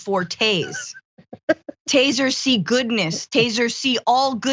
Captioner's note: laugh